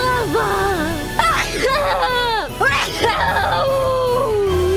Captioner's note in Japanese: くしゃみ